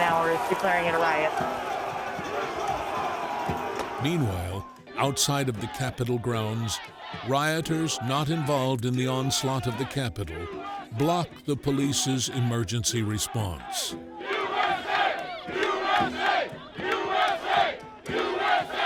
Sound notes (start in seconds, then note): 14.7 crowd